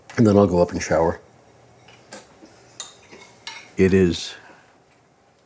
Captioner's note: none